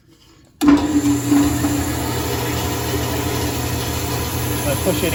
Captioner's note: band saw whirring